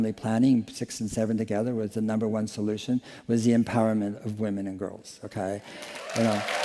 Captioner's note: applause